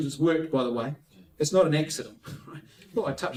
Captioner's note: laughs